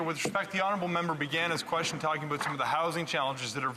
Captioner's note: speaking French